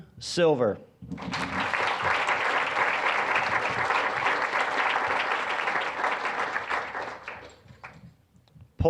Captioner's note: applause